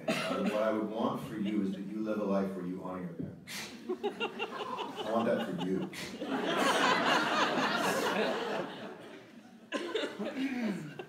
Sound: audience laughter

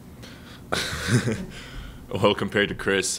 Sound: laughing

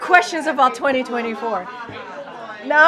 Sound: laughter

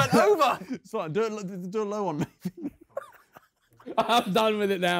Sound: laughing

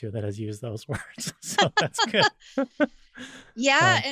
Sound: both laughing

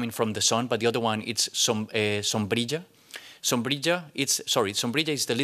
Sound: non-english

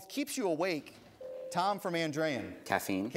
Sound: ding

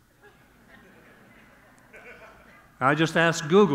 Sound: audience laughing

